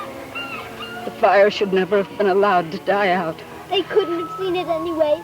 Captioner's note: laughs